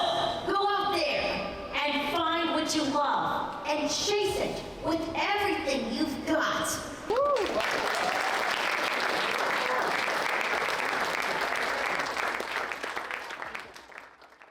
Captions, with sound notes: So go out there and find what you love and chase it with everything you've got. (participants applaud)